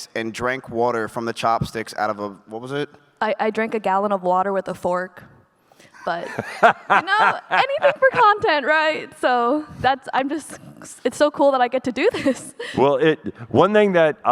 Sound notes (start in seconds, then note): 6.0 laughs